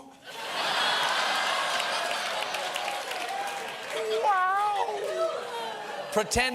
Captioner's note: laughter